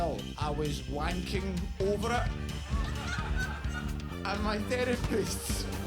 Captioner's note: audience laughs